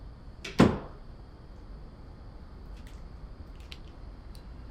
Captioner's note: door clicking